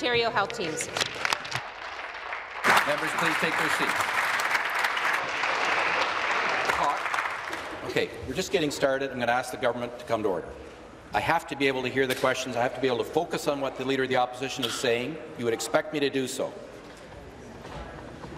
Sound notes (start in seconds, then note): 5.2 applause